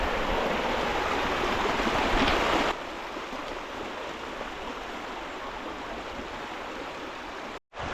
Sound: water sound

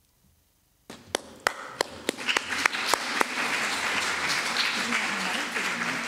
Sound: applause

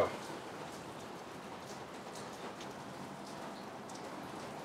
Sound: pouring rain

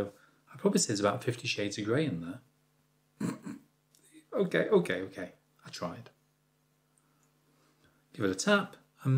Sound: laughs

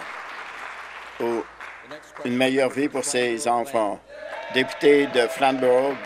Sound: applause

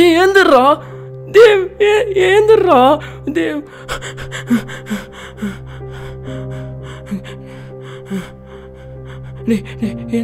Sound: cries

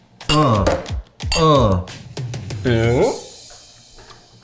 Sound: glasses clinking

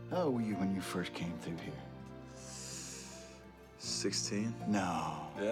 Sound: none

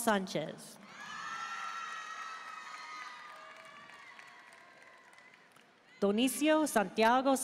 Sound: audience cheering and applauding

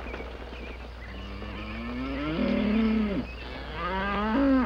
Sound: cows mooing

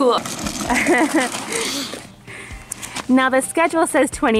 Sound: laughs

